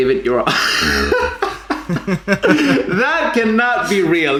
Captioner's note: both laugh